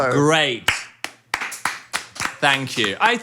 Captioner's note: group claps